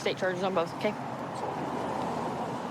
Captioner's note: vehicles driving